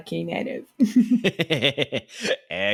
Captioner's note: laughter